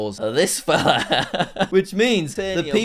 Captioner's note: laughing